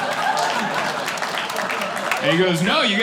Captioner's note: claps